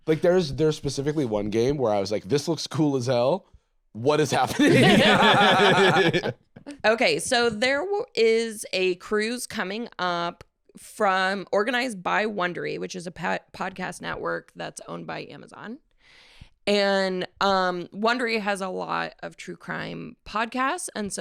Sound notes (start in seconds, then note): 4.2 all laughing